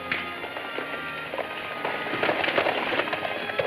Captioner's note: horse galloping